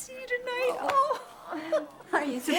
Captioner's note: laughs